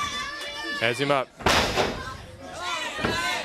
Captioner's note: crowd cheering